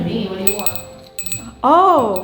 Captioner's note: bell jingling